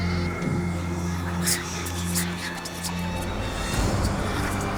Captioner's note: voices whispering